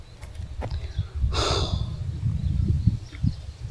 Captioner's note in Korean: 한숨